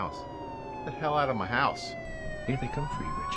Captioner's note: sirens blaring